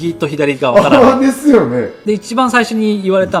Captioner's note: laugh; laughs